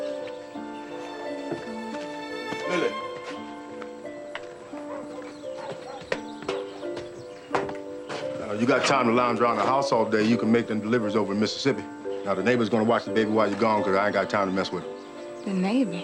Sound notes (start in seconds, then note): 0.2 Lilly hums softly; 4.5 dog barking in distance